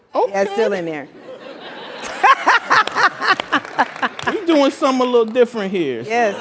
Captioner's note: laugh